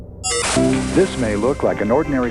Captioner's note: beeping